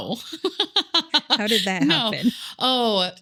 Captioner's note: laughs